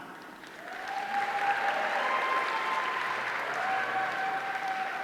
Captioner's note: audience cheering